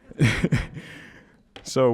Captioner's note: laughing